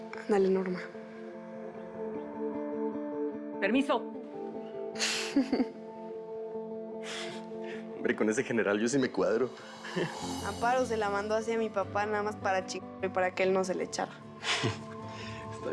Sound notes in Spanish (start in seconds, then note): 5.0 Risas